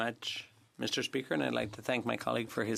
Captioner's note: speaking French